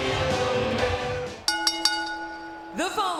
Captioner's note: bell rings